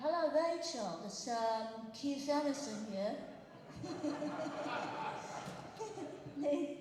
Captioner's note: British accent